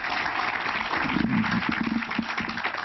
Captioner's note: applause